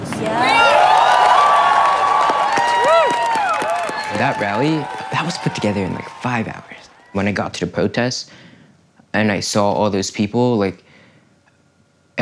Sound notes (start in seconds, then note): 0.0 cheers and applause continue; 0.0 cheers and applause